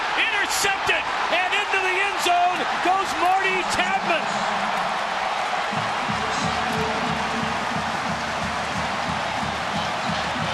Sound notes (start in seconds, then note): 4.0 crowd cheering